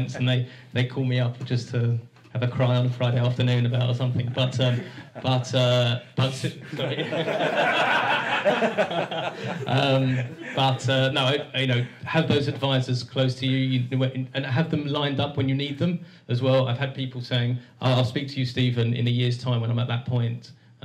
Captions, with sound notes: They they call me up just to have a cry on Friday afternoon about something but erm.. Shh! (Laughter) Have those advisers close to you and have them lined up when you need them as well I've had people saying "I'll speak to you Steven in a years time" "When I'm at that point."